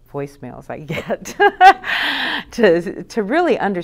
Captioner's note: laughs loudly